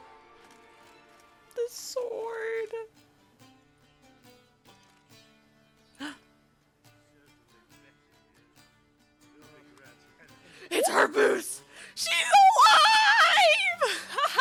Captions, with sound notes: "The sword..." (gasp) "It's her boots!!" "She's alive!!!"